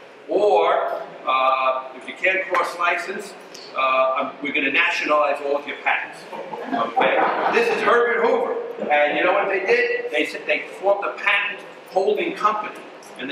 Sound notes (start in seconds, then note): 6.2 audience laughs